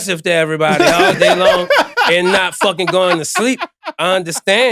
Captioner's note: laughing